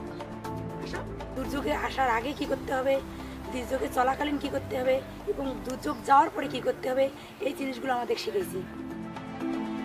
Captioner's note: foreign language